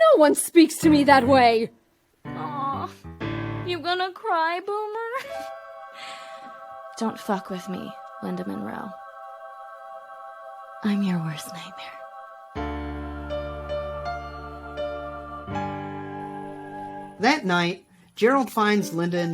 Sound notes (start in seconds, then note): 5.1 laughs